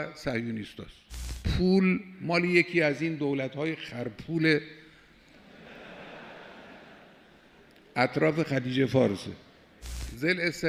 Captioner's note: the audience laughing